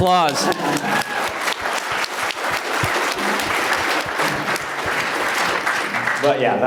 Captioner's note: applause